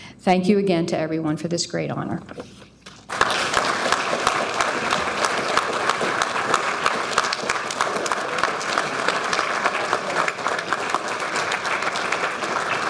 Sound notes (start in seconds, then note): 3.4 audience applauding